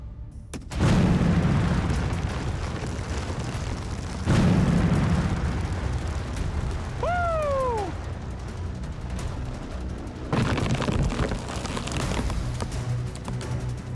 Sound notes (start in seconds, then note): 0.5 thud; 0.6 explosion; 10.1 rocks clattering